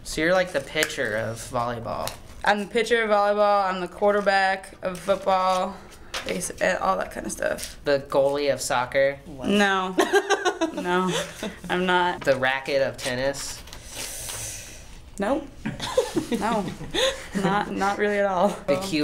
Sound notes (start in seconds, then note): 10.0 laughing